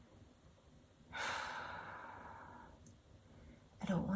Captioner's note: exhaling loudly